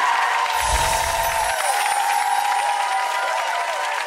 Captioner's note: audience cheers